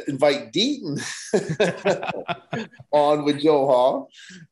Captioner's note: both laughing